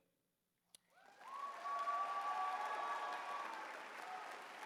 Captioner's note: applause